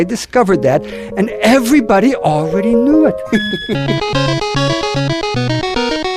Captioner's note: laughs